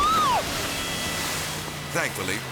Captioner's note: woman shrieks; boat thuds; water splashing